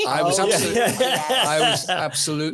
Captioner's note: audience laughing